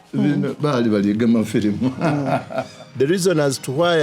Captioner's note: speaking in Lusoga